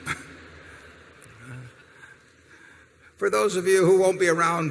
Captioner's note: laughter